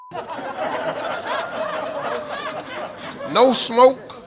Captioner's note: audience laughing